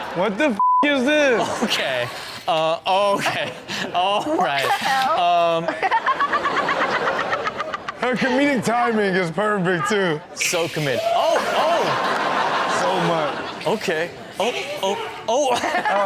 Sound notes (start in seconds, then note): 5.6 Chanel laughs